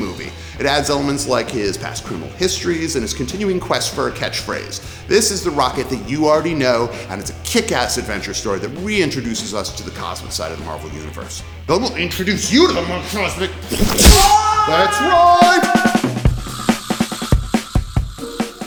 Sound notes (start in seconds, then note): 13.7 punch sound